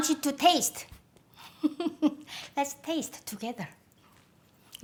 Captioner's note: laughs